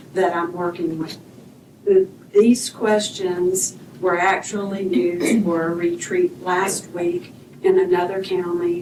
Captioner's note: clears throat